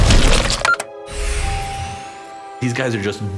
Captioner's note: computer beeps